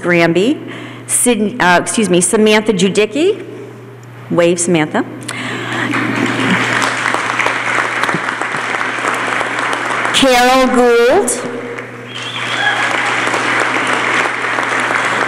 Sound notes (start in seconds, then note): 5.8 applause